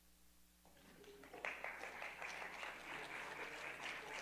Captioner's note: crowd clapping